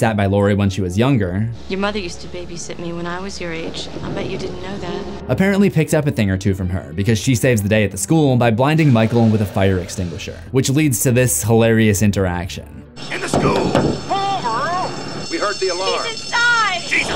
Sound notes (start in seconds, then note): 12.9 alarm ringing; 13.2 banging on truck